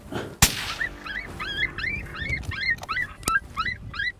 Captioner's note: gunshot